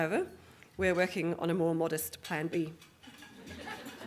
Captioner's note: audience Laughing